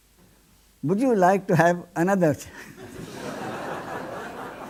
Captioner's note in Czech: smích